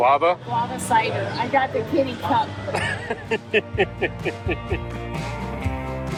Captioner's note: laughing; upbeat music